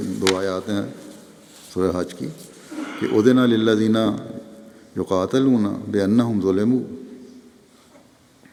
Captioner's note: Arabic